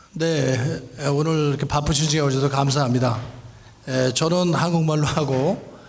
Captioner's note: speaking in foreign language